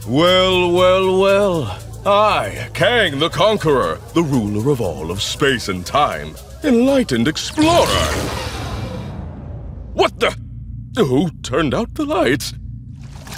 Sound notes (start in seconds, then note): 7.4 electrical zapping; 12.9 sloshes